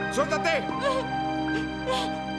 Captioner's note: Freddie whimpering